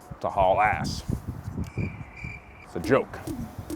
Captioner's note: crickets sounding